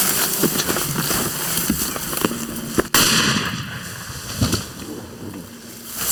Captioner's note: footsteps